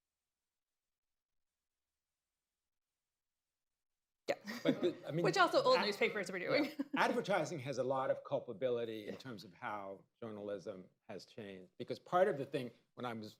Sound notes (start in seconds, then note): 4.4 laughs